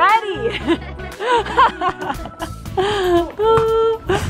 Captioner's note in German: lacht